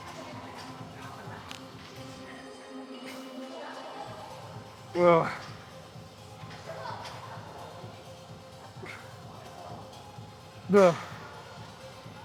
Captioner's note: grunts